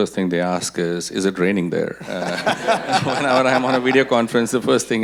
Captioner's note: audience laughing